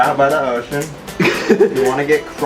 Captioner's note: lols